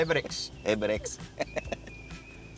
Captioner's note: laughing